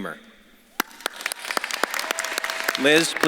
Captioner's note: audience claps and cheers